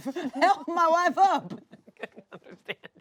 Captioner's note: laughs